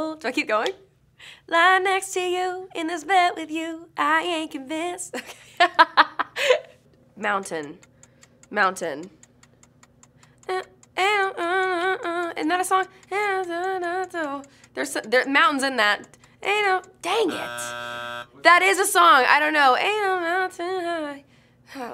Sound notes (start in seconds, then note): 5.3 laughs; 11.0 vocalizing; 13.5 vocalizing; 17.1 buzzer